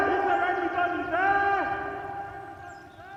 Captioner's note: echoes